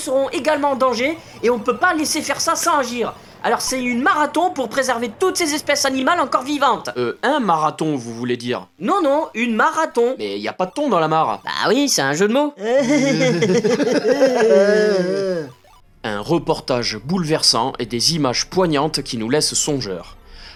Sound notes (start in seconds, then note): 12.7 stupid and forced laughter